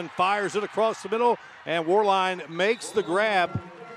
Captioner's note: applause